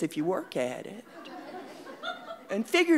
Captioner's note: audience laughing